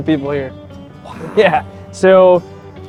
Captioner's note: chuckling